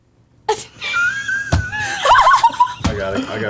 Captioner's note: all laugh